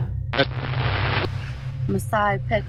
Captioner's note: static crackles